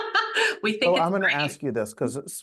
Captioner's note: laughs